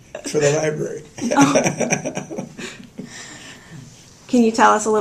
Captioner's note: laughter